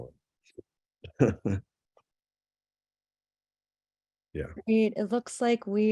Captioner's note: chuckle